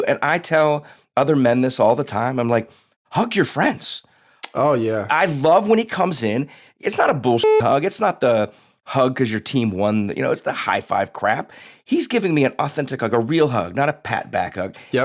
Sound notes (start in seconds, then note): 7.4 beep